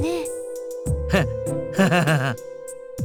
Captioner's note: very awkward laugh